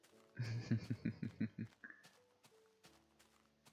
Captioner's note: amused chuckle